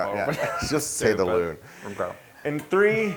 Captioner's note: laugh